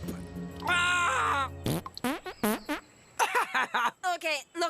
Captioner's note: farts